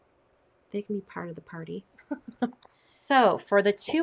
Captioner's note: laughs